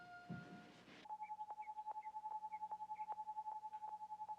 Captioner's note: test pattern humming on television